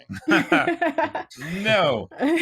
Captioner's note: all chuckle